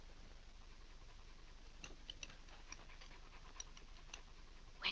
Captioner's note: dog panting